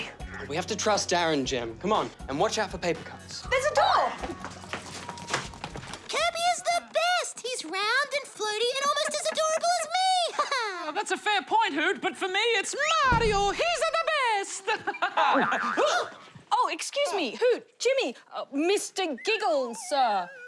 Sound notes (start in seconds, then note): 8.3 laughs; 12.6 mimics mario; 13.4 laughs; 15.8 all exclaim